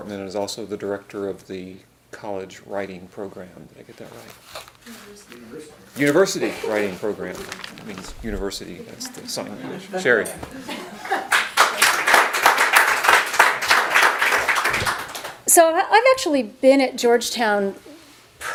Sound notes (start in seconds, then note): 11.1 audience applauds